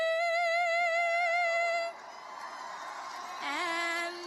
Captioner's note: cheers and applause